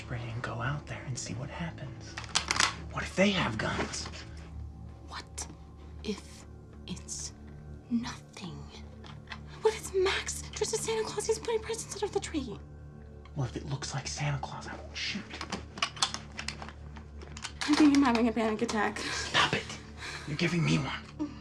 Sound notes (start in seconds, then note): 15.7 gun clicking